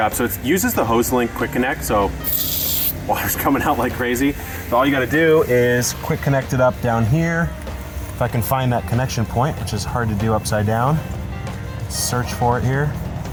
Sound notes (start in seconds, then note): 2.2 water splashing